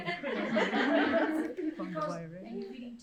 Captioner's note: crowd laughs